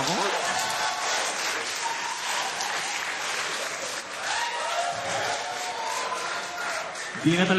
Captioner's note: laughter, applause